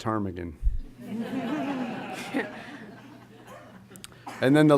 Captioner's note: laughter